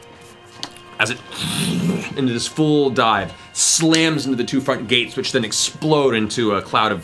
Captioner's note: swoosh